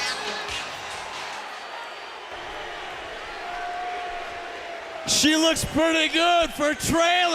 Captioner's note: crowd chatter